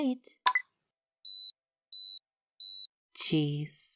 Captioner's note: camera beeps three times